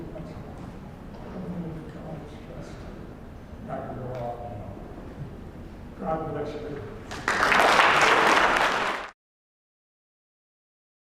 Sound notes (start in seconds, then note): 7.0 applause